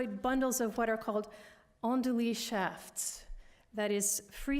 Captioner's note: french